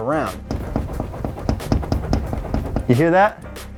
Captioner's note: door flopping